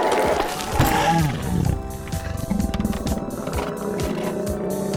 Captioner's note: zombie spartacus growling